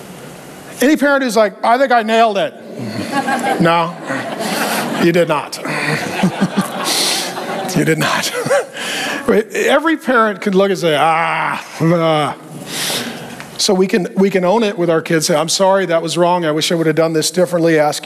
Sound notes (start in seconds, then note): 2.9 congregation laughing; 6.2 chuckling